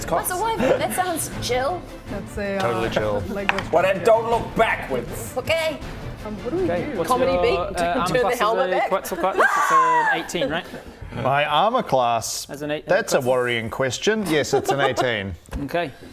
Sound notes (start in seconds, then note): 9.4 perfectly rational scream